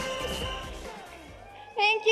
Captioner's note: audience member whistling